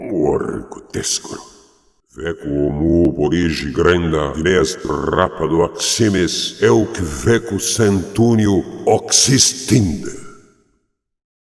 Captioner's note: speaking foreign language